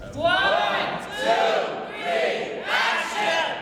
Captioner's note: crowd